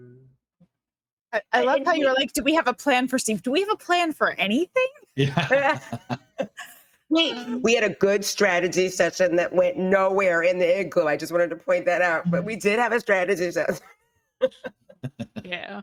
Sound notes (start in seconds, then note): 5.2 chuckling